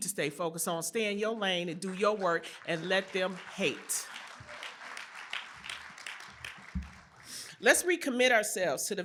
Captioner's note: applause